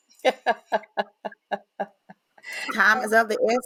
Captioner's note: laughing